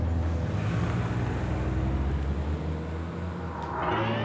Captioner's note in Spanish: Ruido del motor